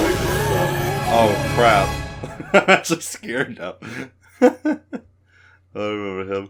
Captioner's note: laughs